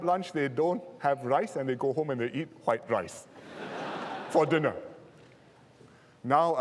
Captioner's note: laughter